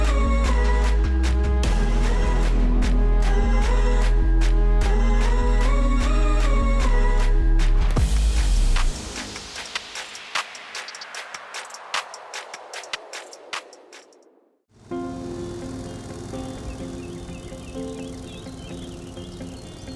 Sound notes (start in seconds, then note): 14.8 mower buzzing; 14.9 contemplative music